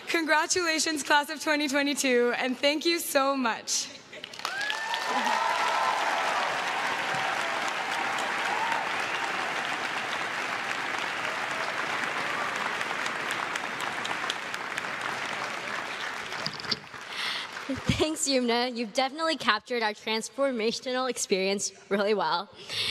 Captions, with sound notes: Congratulations class of 2022 and thank you so much. (crowd claps and cheers) - Thanks Youmna. You've definitely captured our transformational experience really well.